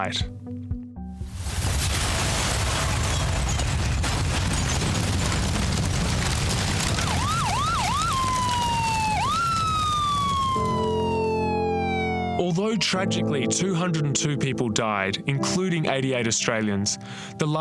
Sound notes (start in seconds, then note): 1.0 explosion; 6.8 sirens